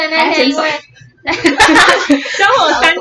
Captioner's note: laughter